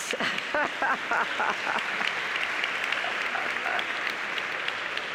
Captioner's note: laugh; applause